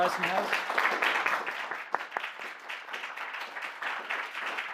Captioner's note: applause